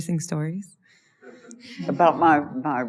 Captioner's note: laughter